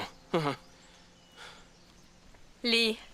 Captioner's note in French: gazouillis d'oiseaux